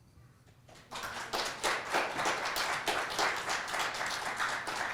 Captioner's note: audience clapping